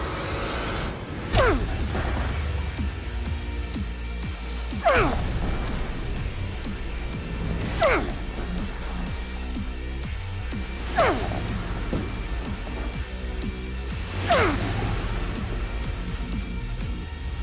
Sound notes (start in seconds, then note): 0.1 rock music; 4.0 grunting